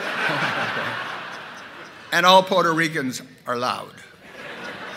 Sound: laughter

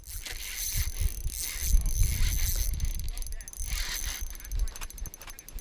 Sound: reel creaks and turns

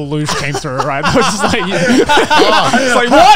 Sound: laughs

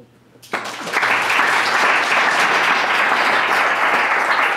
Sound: clapping

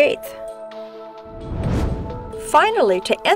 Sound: whoosh

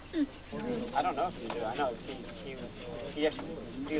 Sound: crowd talking

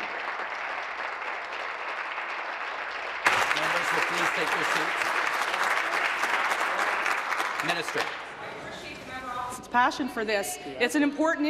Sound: applause

